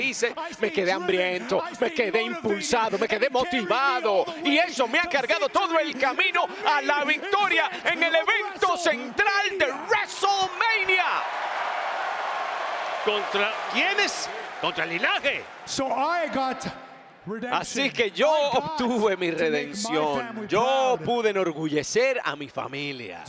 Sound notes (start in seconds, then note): 10.2 applause